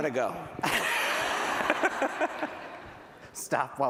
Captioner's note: laughter